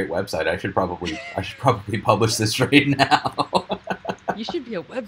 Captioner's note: laughing